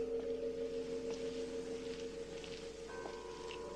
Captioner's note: none